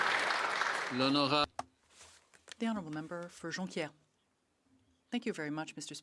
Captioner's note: applause